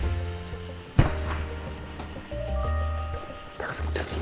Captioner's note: whispering